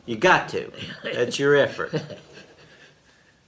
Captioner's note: laughs